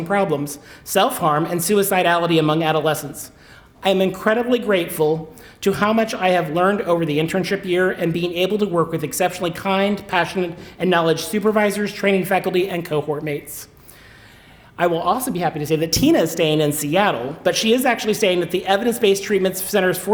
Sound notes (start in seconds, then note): none